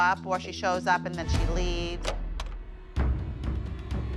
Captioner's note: door opens